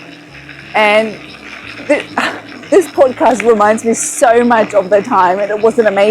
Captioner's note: laughs again